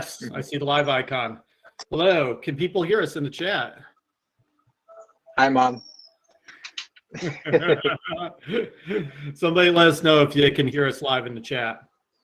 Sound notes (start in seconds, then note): 7.1 laughter